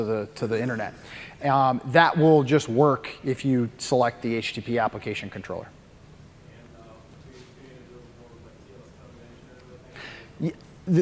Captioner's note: off mic